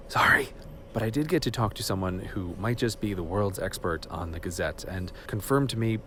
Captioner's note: whispering more quietly